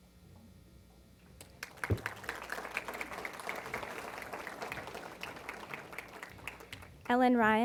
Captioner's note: applause